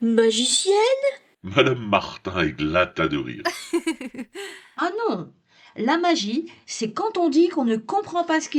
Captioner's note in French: rires